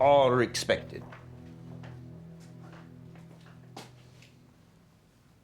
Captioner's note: footsteps